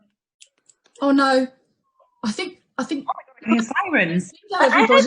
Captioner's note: none